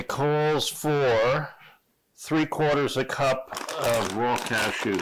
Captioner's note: polythene squeaking